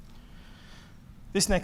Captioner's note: breathing heavily